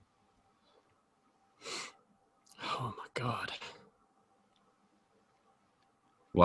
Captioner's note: whispering